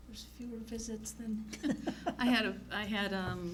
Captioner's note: laughs